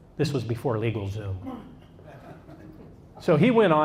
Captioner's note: audience laughs